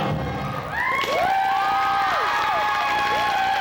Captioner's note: cheers, applause